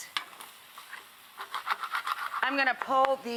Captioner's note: pan scratching